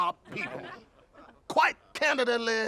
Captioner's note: laughing